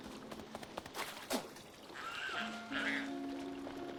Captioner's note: squawks